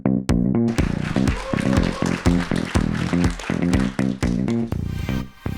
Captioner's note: audience cheers and applauds